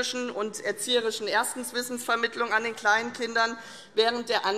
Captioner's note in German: none